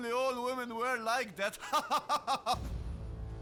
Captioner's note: laughing; music sting